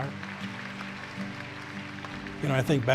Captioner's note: applause